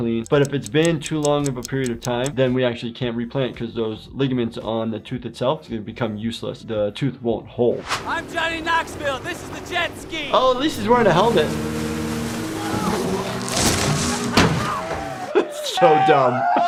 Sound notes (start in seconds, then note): 11.5 boat engine roaring